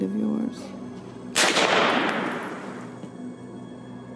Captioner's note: gun bangs; ominous music